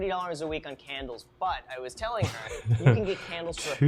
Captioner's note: laughs